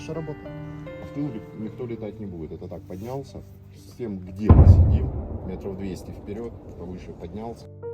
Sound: explosion

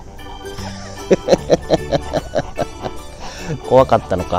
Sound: laughs

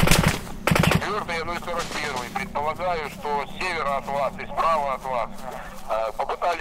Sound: radio exchange

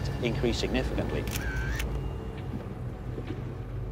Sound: camera shutter clicking

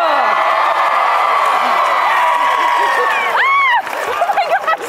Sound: people cheering loudly

